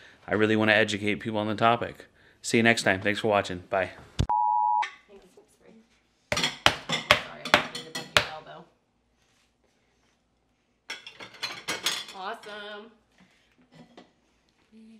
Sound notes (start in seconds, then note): 4.3 sine tone; 10.9 dishes clattering